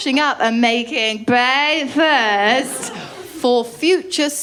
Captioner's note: drunkenly